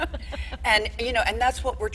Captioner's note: all laughing